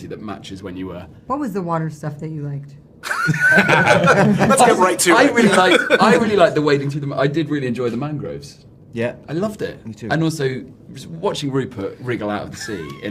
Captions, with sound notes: that matches when you were-- What was the water stuff that you liked? [LAUGHTER] - Let's get right to it. I really liked-- I really liked the wading through the-- I did really enjoy the mangroves. - Yeah? - I loved it. Me, too. And also, watching Rupert wriggle out of the sea.